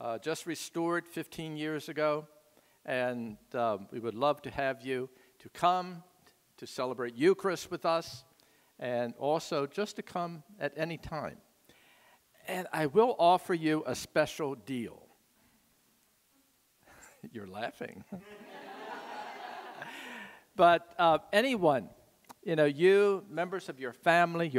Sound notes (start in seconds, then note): 18.2 audience laughing